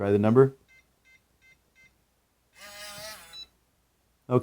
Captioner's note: keypad tone